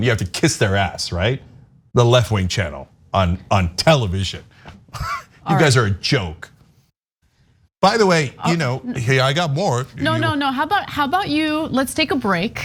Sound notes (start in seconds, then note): 4.9 laugh